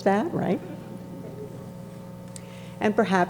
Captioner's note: graduates chortling